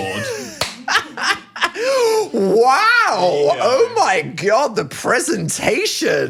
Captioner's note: laughing